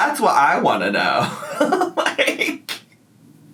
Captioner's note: laughs